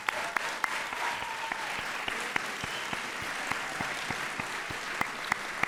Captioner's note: audience applauds and cheers